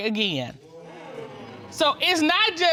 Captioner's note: audience exclaims